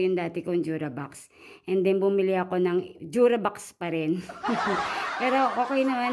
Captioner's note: laughing